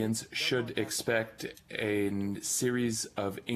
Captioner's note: speaking French